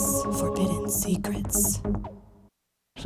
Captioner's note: lady whispering "Forbidden Secrets"; lady whispering "secrets"; lady whispering "Forbidden Secrets"